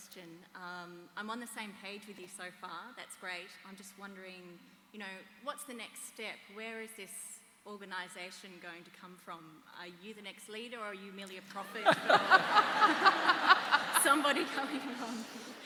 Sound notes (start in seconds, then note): 11.6 laughter